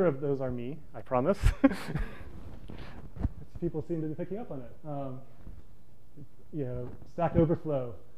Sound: laughs

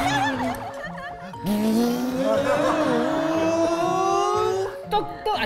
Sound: vroom~~~~

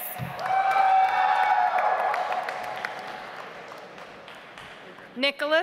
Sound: audience applauds

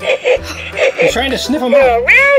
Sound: sniffing sounds

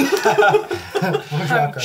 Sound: laughs

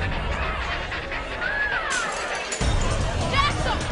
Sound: tense music; glass shattering

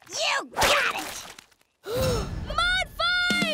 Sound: gasping

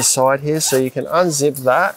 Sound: zipper pulls

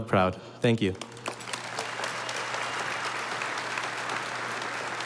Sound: audience applauding

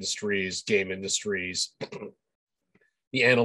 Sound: clears throat

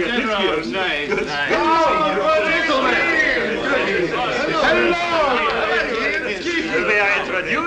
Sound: excited friendly greetings

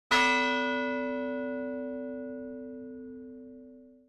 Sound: bell tolling

